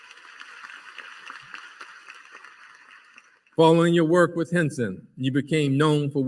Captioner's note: applause